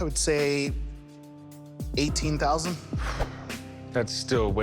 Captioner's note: sighs